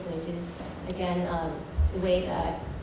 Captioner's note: none